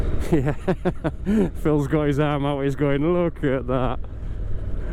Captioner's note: laughter